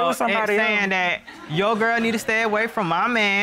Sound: audience laughing

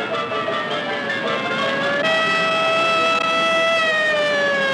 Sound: siren wailing

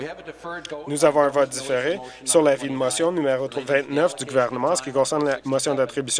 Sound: conversation din

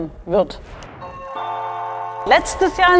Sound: ringing

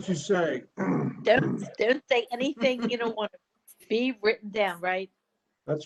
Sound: laughter

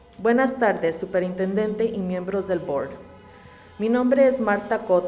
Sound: reading in Spanish

